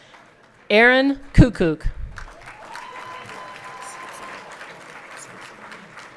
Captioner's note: everyone clapping